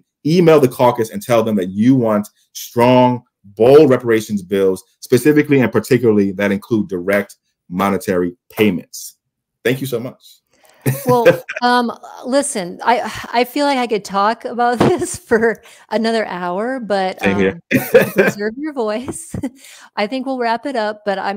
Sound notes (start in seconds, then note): 10.8 laughs; 17.2 laughs